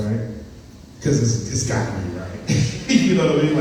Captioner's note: laughs